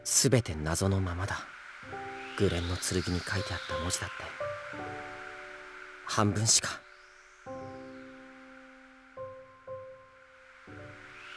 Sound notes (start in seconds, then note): 8.2 silence